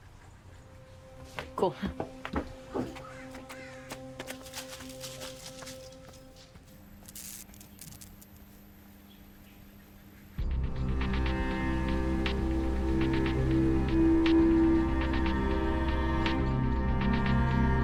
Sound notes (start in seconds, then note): 2.4 pensive music; 4.2 leaves rustle; 7.4 light buzzing; 10.4 ominous music